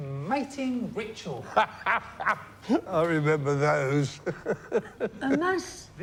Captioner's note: laughing